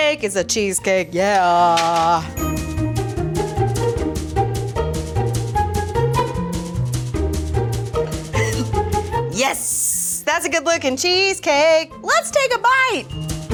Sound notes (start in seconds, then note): 8.3 laughs